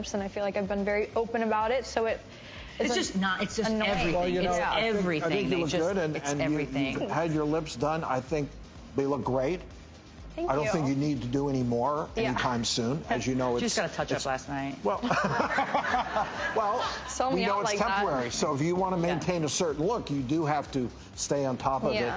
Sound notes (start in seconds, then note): 15.0 laughs